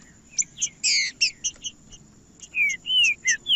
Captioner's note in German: trinca ferro cantando